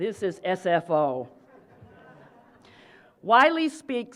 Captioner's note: laughter